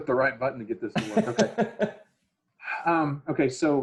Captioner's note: host laughs